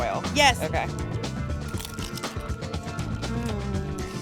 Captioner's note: crunch